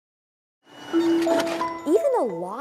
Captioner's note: gentle music; machine whirring